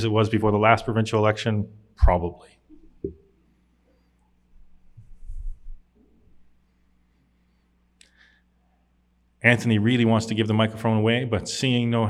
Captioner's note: long pause